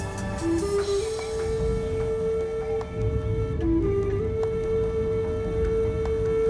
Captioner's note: playing flute; thunder rumbling